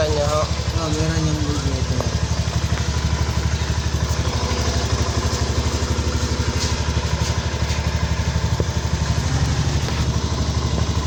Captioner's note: motorcycle engine